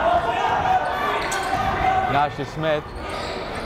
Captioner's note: yelling